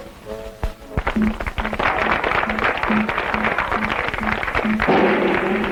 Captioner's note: guests applauding; drum rolling